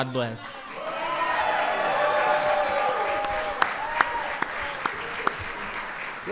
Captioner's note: applause